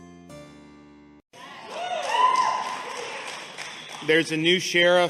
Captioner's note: crowd cheering